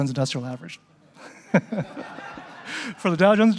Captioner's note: laughing